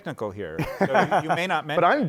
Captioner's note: laughter